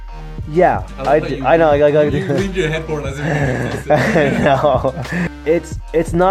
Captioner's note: voiceover